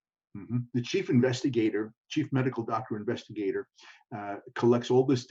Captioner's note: hums